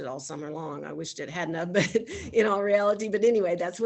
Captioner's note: chuckles